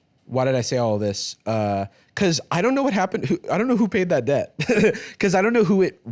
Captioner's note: laughs